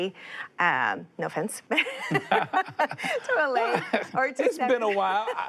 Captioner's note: both laugh; both laughing